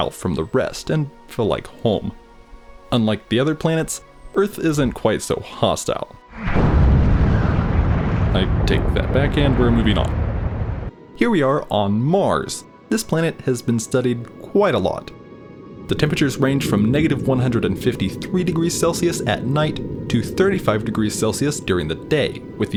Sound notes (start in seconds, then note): 6.3 bomb explosion